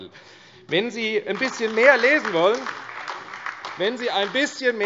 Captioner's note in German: Beifall AfD